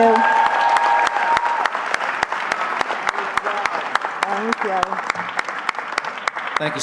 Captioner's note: cheering